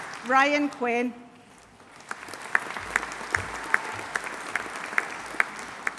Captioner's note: audience applauding